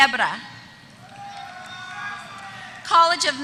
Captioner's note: applause